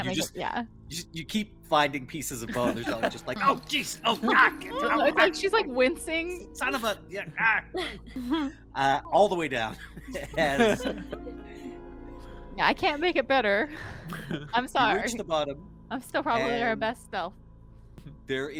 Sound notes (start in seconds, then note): 2.2 Cornette laughs; 6.6 laughs; 14.0 Cornette laughs